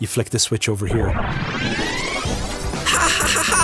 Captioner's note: noises of portal materialising; giggles